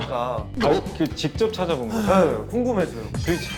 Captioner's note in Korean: 깜짝 놀람